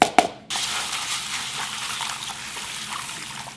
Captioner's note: water running